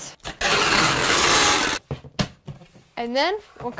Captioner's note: tape pulling